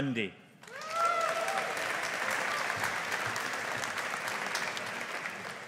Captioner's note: audience applauding